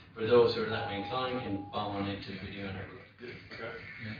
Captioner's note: audio distorts